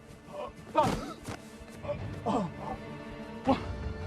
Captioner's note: Edmund choking